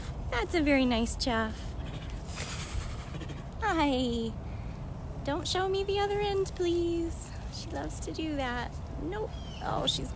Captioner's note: chuff